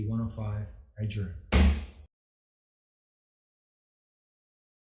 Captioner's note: gavel thuds